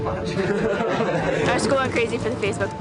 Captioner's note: laughing